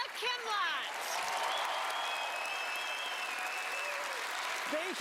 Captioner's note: audience cheering and clapping